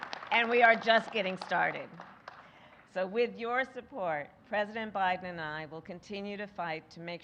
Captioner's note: applause